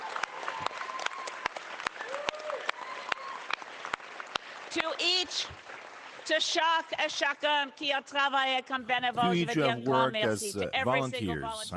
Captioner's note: cheering